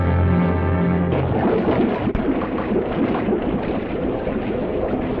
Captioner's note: liquid bubbling